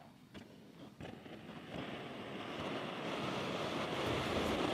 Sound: gas hissing

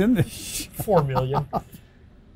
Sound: laughs; laughs hysterically

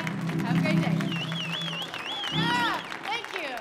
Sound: audience cheering; audience applauding

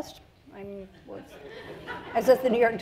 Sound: audience laughs

